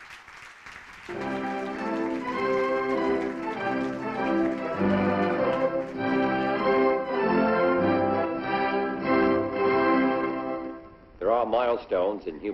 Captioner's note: applause